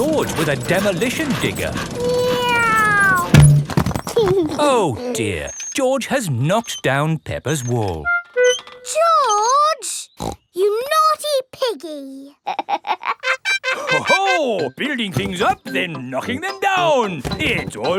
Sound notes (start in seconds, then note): 2.2 george imitates airplane; 4.4 george giggles; 10.1 snorts; 12.3 laughs